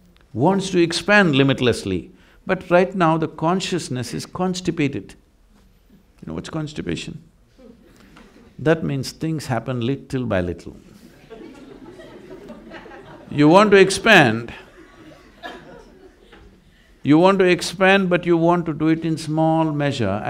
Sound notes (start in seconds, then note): 11.0 laughter